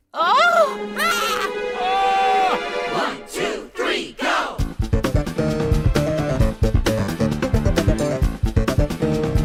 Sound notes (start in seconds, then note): 0.1 candles screams!; 1.8 mephone screams??; 1.8 mysterious creature screams!